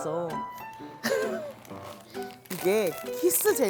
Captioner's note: rustling